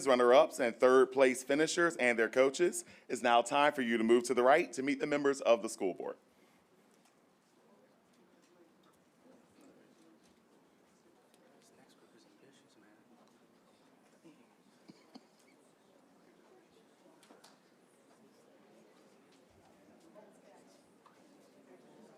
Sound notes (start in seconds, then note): 7.2 group chatter